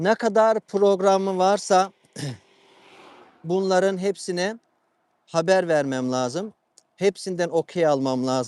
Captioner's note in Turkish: boğazını temizler